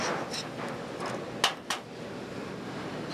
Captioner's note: none